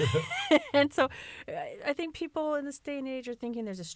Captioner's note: laughter